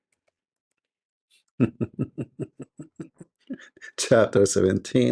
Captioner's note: Ketawa